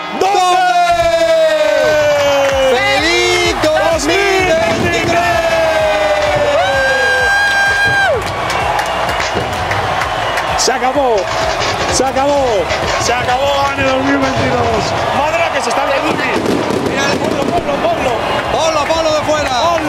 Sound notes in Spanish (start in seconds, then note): 6.5 gritan; 8.6 Bullicio y fuegos artificiales